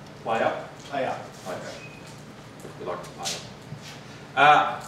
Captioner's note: voiceover